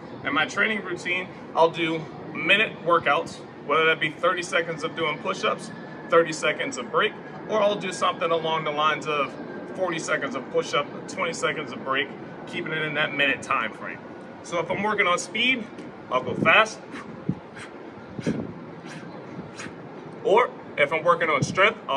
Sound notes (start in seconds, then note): 17.0 huffing